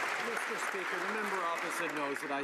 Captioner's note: some Applause